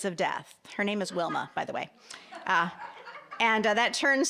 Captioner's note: audience laughing